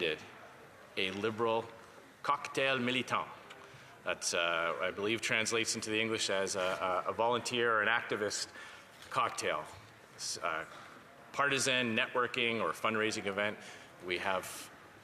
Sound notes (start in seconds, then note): 8.4 speaking French